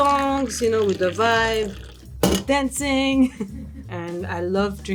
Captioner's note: chuckles